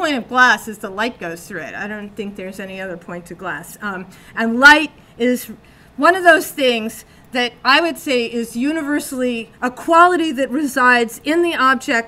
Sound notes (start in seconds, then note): none